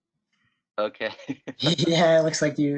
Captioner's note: laughs